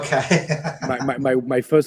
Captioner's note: laughs